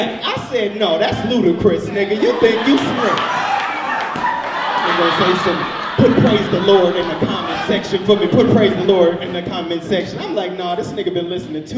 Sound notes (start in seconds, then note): 3.0 audience laughs